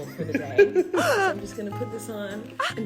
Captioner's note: laughter; gasp